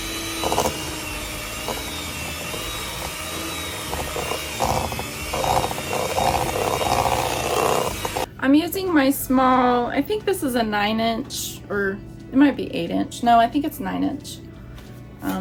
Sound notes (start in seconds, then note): 0.0 running hand mixer